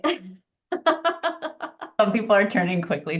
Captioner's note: laughs